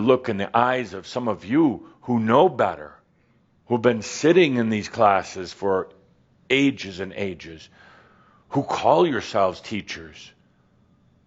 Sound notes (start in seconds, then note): none